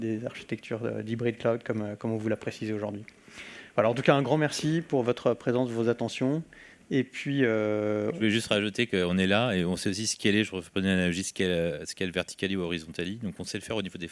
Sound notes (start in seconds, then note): 8.5 speaking french